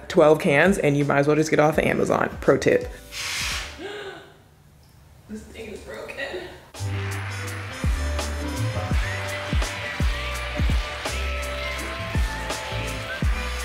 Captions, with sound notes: 12 cans and you might as well just get off the Amazon. Pro tip. (gasps) This thing's broken. (upbeat music)